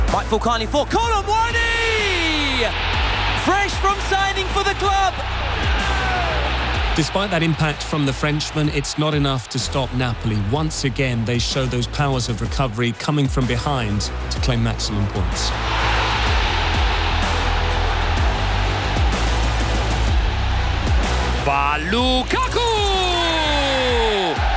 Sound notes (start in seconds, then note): 15.7 crowd cheering